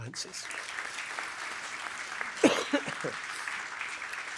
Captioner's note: applause